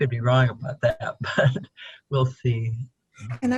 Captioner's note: chuckles